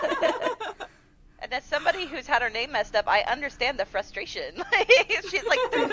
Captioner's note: laughter; laughter